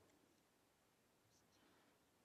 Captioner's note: speaking French